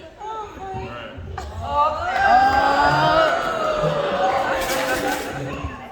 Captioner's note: crowd